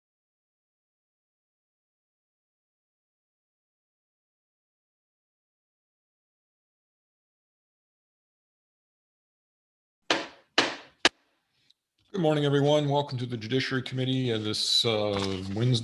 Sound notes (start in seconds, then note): 10.1 gavel banging